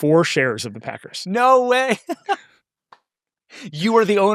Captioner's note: laughs